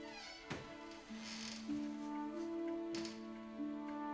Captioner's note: door creaking